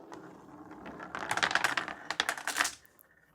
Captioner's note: marbles rolling